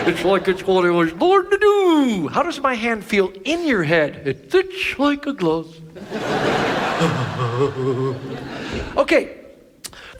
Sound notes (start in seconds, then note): 0.0 audience laughs; 6.0 audience laughs; 6.8 Ted E laughs